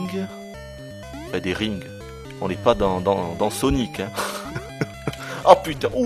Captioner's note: laughs